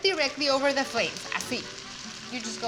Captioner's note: speaking Spanish